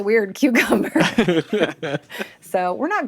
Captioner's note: group laughing